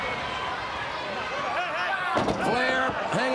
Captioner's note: Ric thudding on ring